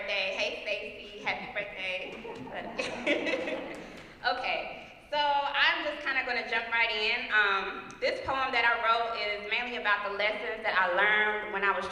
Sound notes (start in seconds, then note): 2.0 laugh